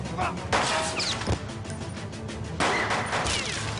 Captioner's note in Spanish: Disparo